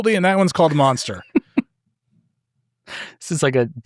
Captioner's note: laughing